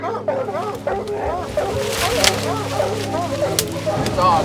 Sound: dogs barking

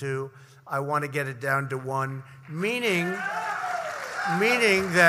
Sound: applause

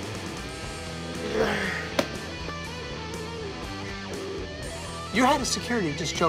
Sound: sighs

